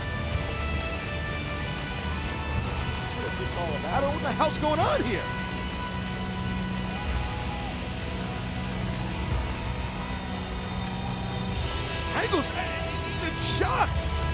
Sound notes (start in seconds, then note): 6.7 audience cheers